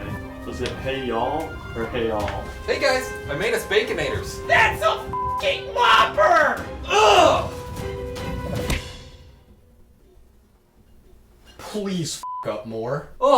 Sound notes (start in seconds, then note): 5.1 beep; 6.9 grunts; 8.4 burger whooshing; 12.2 beep